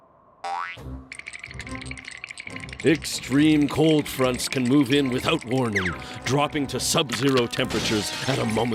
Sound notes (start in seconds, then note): 1.2 both shivering